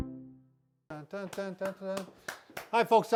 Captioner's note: hums and claps